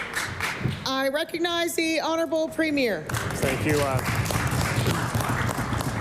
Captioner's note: applause